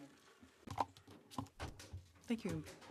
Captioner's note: speaking French